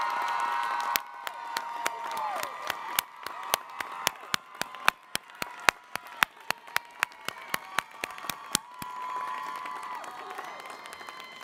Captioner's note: cheering